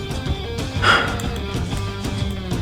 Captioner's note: exhales Oxygen